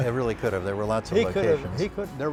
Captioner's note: light laughter